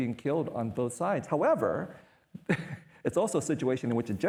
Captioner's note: chuckles